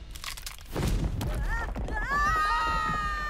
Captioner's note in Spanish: gritando